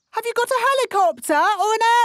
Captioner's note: none